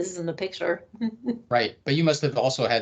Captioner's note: laughing